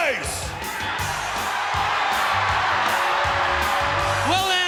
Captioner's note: audience cheers